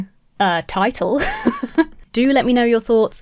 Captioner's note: laughing